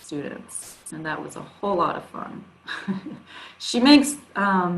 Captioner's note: chuckles